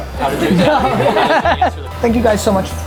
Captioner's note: laughs